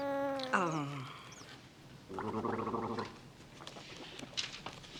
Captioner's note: gargling